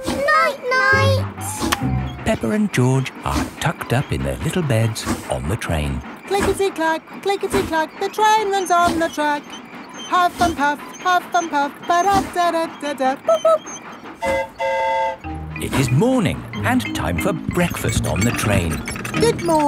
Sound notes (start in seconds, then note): 14.2 mimics train whistle; 14.2 train whistle toots